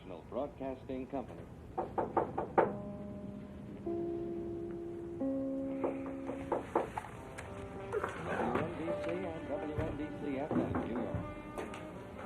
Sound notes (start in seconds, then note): 1.7 somebody knocks; 2.3 gentle music